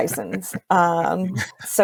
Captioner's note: laughs